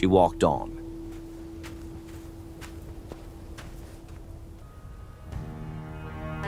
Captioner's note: walking noises